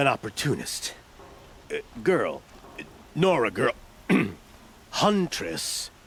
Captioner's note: clears throat